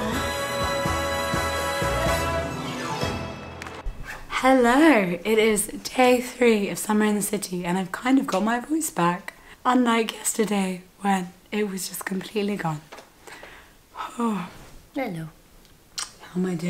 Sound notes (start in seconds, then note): 0.0 upbeat music; 13.9 sighs